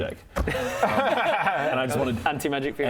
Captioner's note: fiendish laughter